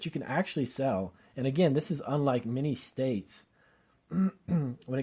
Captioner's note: clears throat